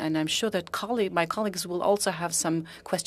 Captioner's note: speaking French